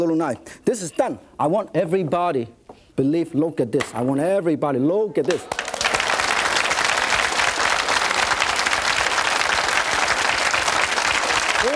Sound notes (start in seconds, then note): 5.2 audience claps